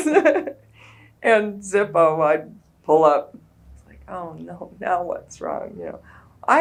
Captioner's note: laughs